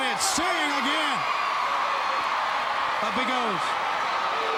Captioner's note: crowd cheering